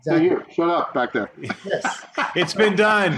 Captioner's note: laughs